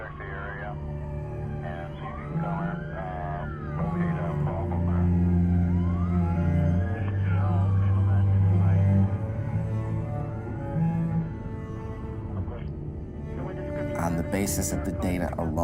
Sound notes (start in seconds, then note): 3.1 police radio chatter; 8.7 slow string music begins